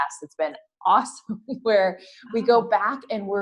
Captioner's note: laugh